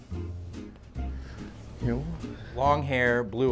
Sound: laughing

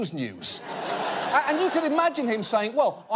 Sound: audience laughing

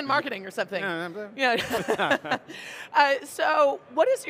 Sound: group laughs

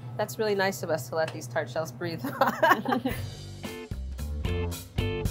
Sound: laughs

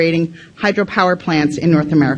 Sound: none

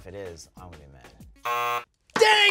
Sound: buzzer

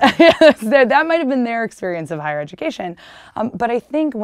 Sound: laughter

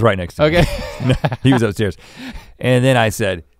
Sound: chuckles

